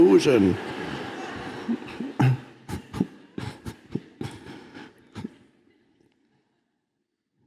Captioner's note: audience laughs; Eckhart laughs